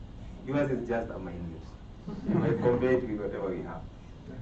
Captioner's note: laughter